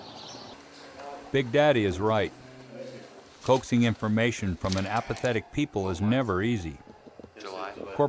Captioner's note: voiceover